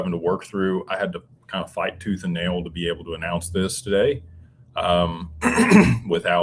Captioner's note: clears throat